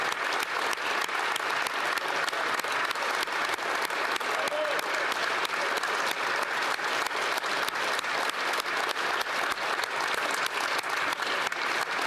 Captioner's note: applause